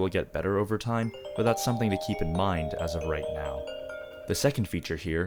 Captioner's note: phone rings